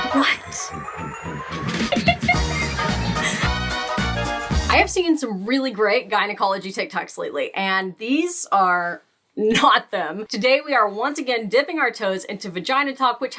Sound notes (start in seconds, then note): 0.0 laughing; 0.0 big band music